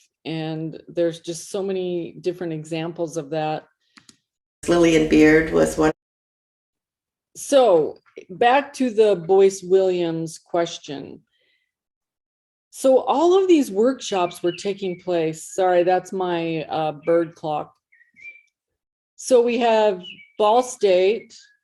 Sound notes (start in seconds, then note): 17.8 bird calling sounds